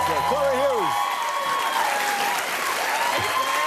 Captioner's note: cheers and applause